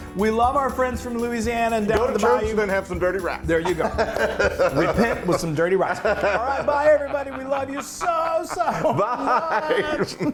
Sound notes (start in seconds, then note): 3.5 laugh; 8.6 laugh